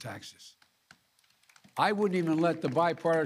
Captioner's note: applause